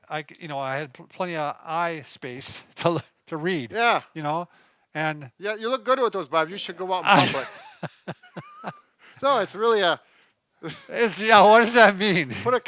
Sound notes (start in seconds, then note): 7.0 laughs